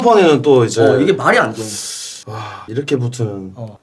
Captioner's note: inhales